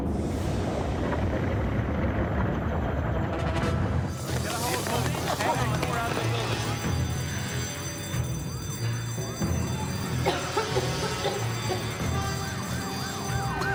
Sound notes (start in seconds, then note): 3.5 thud sound; 6.6 alarm; 10.1 cough; 11.0 alarm